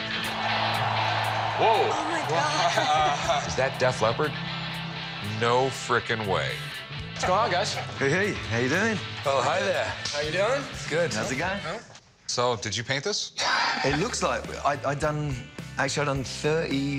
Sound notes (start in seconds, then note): 2.8 cheering effects